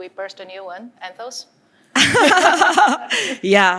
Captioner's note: laughter